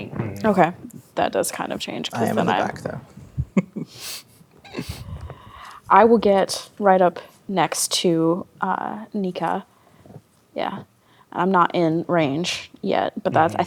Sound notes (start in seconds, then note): 3.2 chuckles